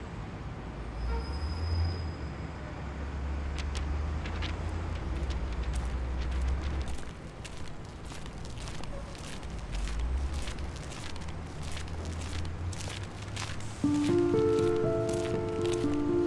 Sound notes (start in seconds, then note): 7.3 footsteps; 12.7 soft Music